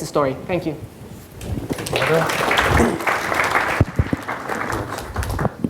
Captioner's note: audience applauding